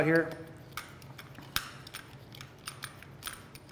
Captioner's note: tool clicking